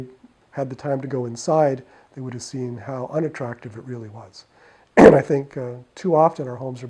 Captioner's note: clears throat